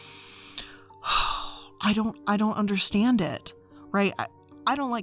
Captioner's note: sighs